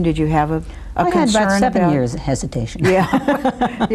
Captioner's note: laughs